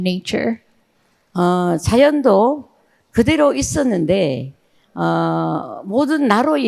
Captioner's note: speaking in foreign language